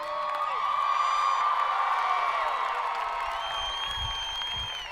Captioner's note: audience cheering